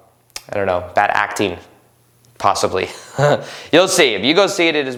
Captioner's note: laughs